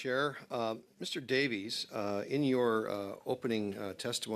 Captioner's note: speaking French